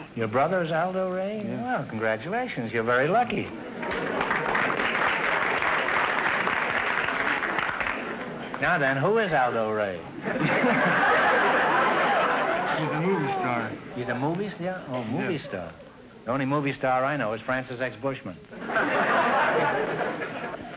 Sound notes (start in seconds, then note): 3.8 applause; 10.1 audience laughter; 18.5 audience laughter